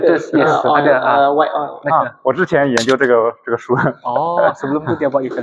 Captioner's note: laughs